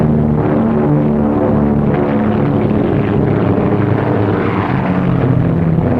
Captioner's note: plane engines humming